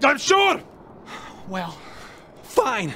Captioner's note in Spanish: suspiro